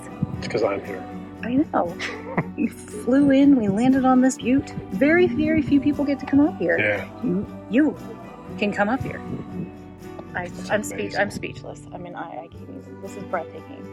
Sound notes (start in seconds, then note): 2.0 laughs